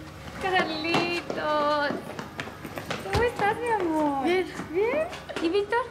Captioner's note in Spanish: portazos